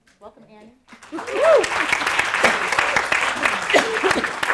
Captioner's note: audience applauding